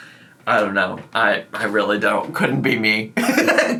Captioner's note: laughing